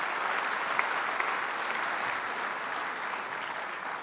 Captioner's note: applause